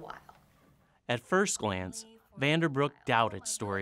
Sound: voiceover

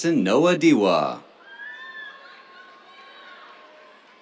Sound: cheers

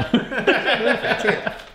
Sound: all laugh

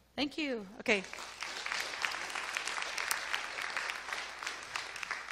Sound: audience applause

